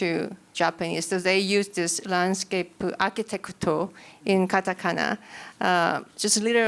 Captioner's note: non-english